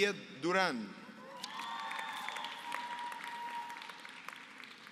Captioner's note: applause